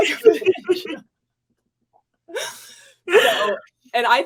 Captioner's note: laughs